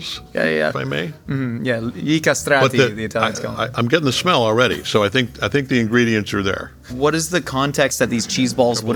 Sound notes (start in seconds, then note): 1.8 speaking Italian